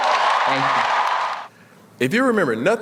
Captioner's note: cheering